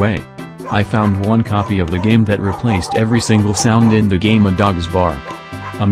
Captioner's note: dogs barking